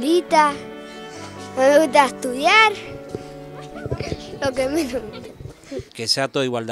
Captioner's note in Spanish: risas